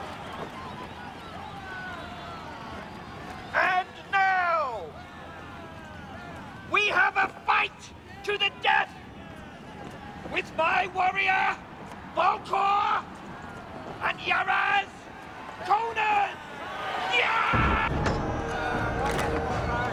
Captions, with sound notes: - And now! We have a fight to the death with my warrior, Vulkar and Yuraz! Conan! (yelling) (heavy orchestral music)